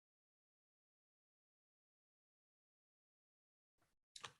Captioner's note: brief Silence